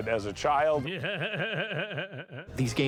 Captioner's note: laughs